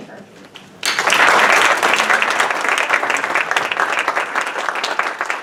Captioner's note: audience applauding